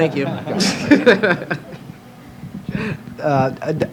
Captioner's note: laughter